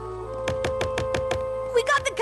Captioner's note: knocking